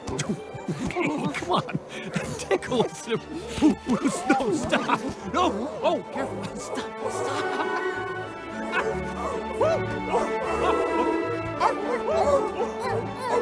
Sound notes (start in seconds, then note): 0.1 giggling; 8.2 laughs; 10.9 seals barking